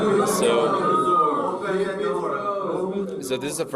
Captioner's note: audience chattering